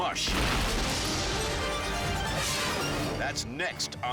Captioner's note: crashing